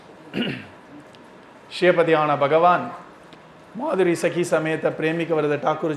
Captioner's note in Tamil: தொண்டையைச் சரிசெய்தல்